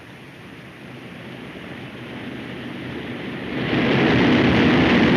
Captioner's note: engines droning